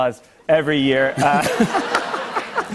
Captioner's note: laughter